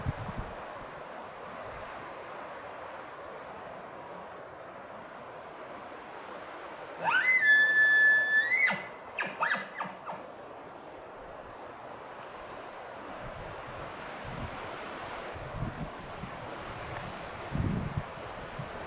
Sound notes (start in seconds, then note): 7.0 caller bugling